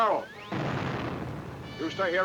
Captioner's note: explosion booming